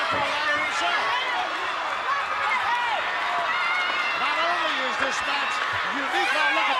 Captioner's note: applause